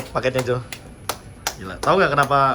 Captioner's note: claps